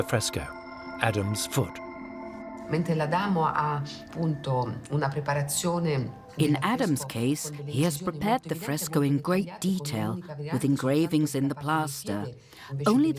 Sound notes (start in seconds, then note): 4.0 in Italian